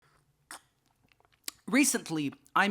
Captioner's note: slurp